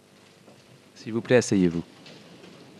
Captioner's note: french